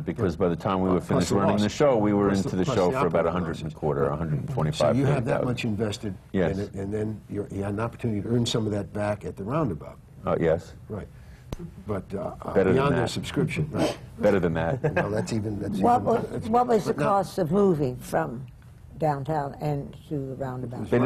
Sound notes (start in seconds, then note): 14.7 laughs